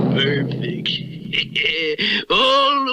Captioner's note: Simon Bar Sinister Laughs